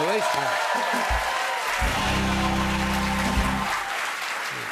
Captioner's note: cheers and applause